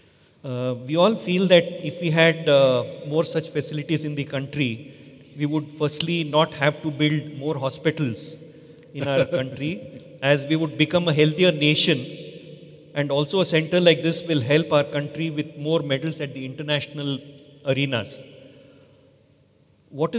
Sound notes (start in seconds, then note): 9.0 Sadhguru laughs